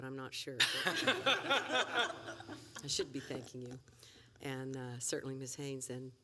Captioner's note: laughter